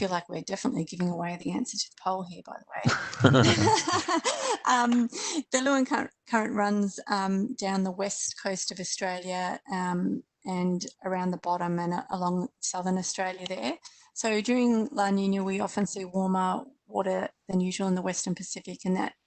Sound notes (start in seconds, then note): 2.8 laughter